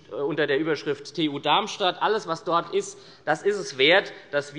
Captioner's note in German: none